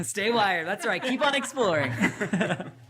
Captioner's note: all laughing